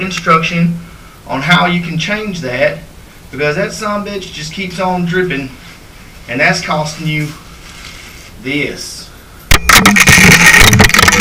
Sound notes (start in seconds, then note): 9.5 sound of change hitting tub